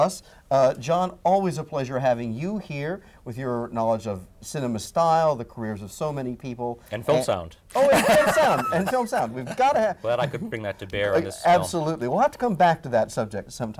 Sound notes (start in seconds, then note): 7.8 laughing